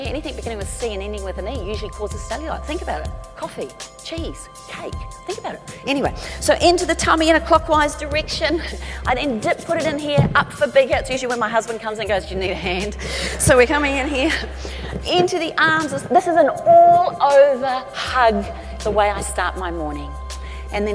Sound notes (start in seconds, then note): 13.0 chuckles